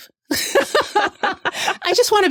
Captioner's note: laughter